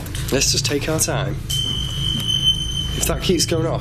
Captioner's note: metre beeping